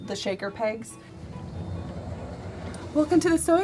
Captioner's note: door scrapes